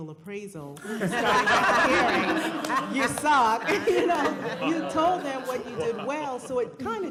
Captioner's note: laughter